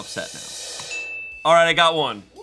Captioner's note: bell dings